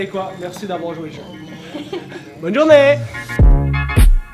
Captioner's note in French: Rires